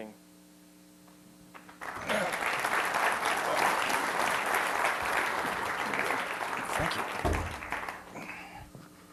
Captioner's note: applause